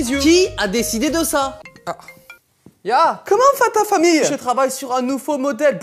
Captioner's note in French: accent allemand